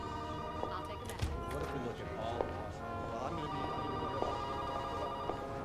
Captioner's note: door opens